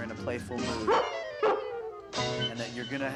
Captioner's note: barking